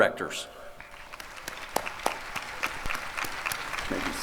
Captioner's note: applause